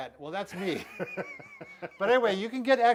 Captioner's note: chuckling